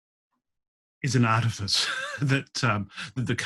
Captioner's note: laughs